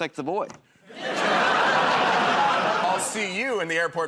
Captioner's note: laughter